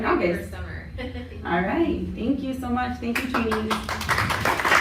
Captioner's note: applause